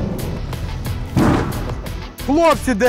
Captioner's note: explosion nearby